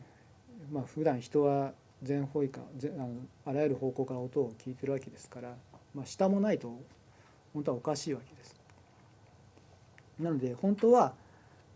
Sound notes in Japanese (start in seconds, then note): 6.3 からの音